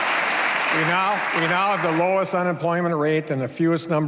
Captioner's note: cheers and applause